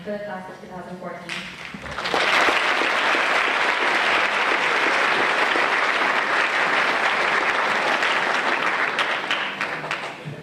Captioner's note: applause